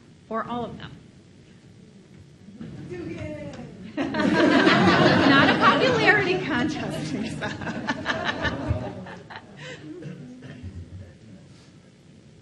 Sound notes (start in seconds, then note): 3.9 audience laughs; 9.4 laughs